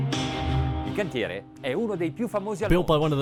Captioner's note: man speaks in foreign language